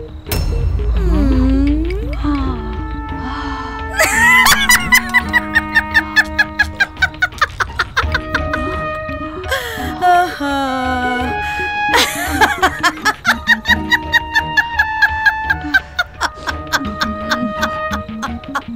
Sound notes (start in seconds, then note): 4.0 laughing